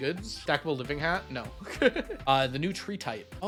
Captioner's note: laughs